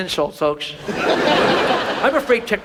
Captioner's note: audience laughs